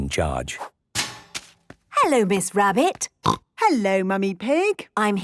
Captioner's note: snorting